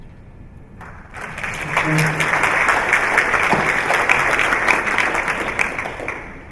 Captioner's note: applause